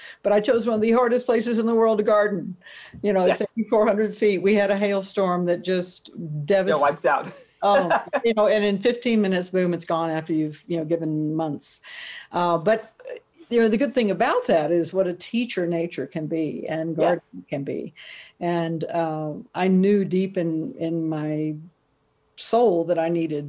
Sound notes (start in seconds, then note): 7.6 laughs